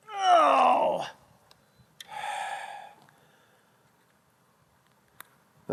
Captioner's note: exhales